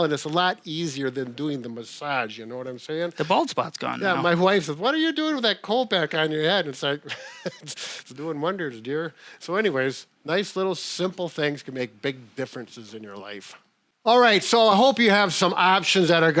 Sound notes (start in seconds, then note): 7.0 chuckling